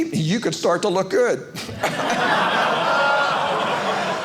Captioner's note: audience laughing